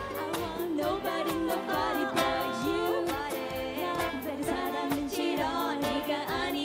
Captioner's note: korean